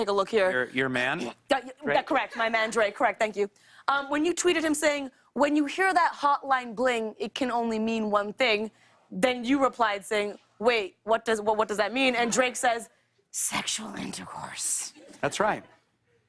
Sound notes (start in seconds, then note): none